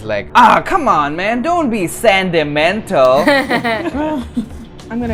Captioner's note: laughter